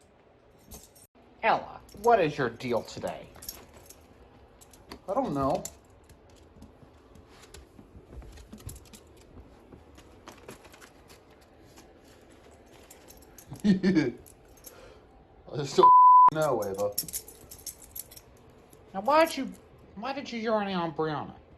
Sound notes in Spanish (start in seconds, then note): 13.6 Ella se ríe